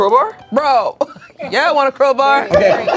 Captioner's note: laughing